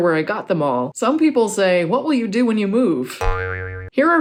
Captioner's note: spring noise